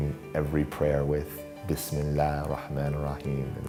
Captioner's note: foreign language